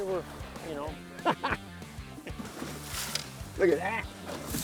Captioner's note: laughing